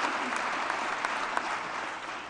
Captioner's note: applause